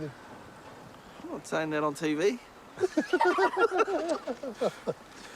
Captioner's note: laughter